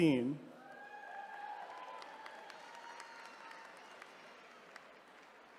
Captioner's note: attendees cheering